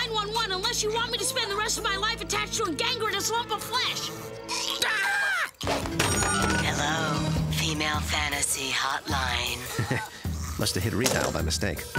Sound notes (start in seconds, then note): 4.6 shrieks